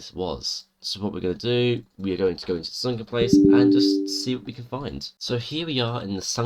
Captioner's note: error sound